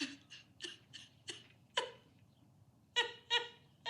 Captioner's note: woman crying